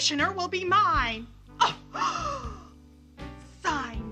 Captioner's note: gasps